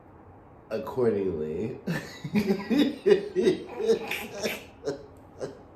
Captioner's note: both laughing